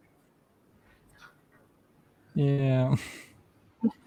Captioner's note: no sound